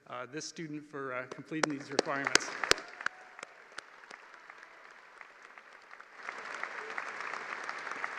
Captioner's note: applause